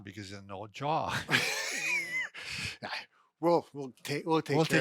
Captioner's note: chuckling